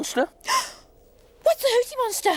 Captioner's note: Tula gasps